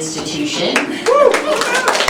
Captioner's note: applause